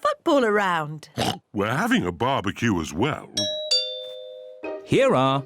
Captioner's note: oinks; doorbell rings